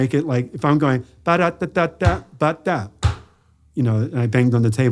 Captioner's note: bangs